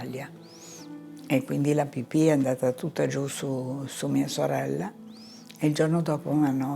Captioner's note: continues speaking in foreign language